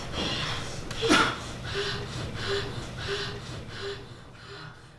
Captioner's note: Aaron coughs